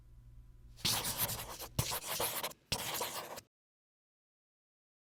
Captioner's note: chalk screeching